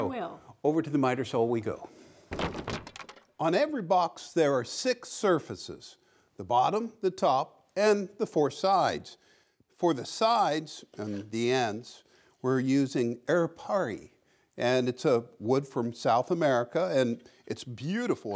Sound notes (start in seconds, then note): none